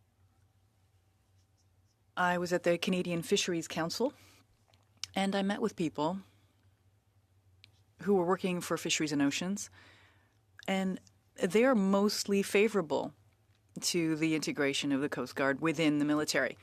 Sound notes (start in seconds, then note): 5.6 speaking french